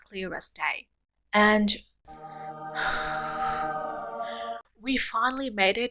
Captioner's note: sigh